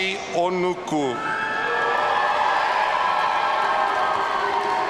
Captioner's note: audience cheering